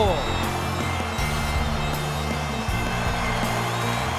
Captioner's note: crowd cheering